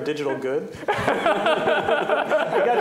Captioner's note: laughter